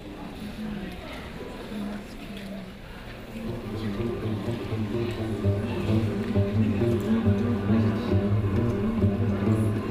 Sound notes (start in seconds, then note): 0.7 audience chattering; 3.5 dramatic music